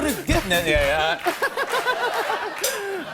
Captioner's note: laughter